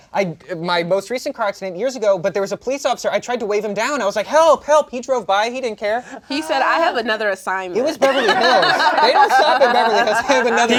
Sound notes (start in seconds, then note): 8.0 laughter